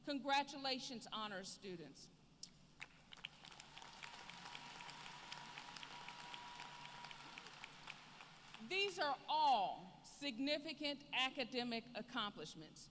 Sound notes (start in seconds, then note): 2.8 applause